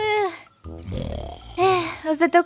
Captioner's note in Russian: протяжное хрю